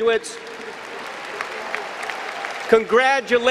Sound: applause

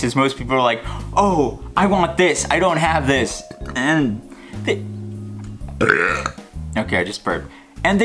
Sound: burp

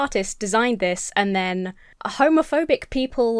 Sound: none

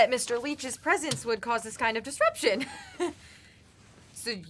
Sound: laughs

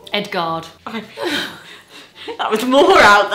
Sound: they laugh

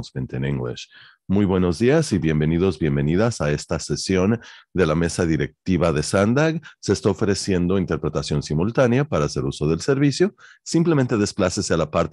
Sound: speaking in spanish

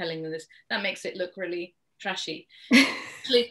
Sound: laughs

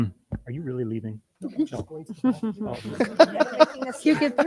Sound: board Member's laughing

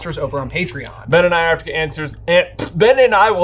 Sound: blows spit

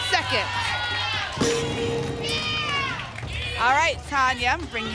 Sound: ping

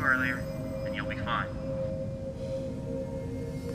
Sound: radio

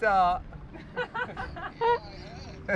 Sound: laughing

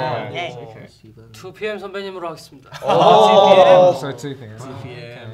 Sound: speaking in Korean

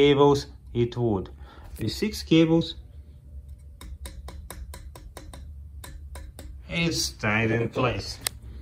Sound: knocking sound

